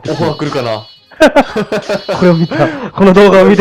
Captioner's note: laughs